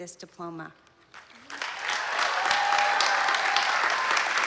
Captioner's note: applause